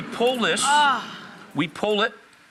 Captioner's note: Rachael moans